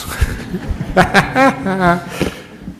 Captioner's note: laughter